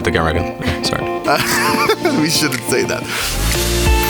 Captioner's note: laughs